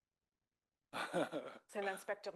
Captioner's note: speaking French